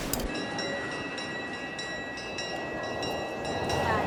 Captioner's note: bell rings